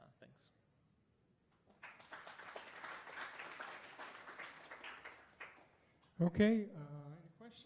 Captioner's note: applause